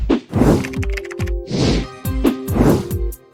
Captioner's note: upbeat music; typing